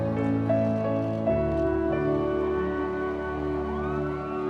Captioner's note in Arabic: هتافات الجمهور